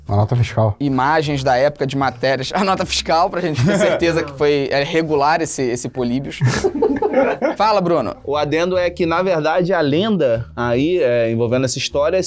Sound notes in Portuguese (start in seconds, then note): 6.4 risadas